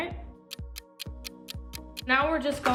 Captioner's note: ticking